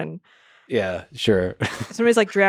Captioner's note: laughs